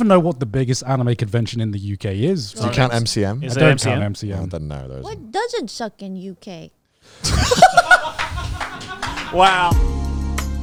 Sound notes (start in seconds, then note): 7.2 everyone laughing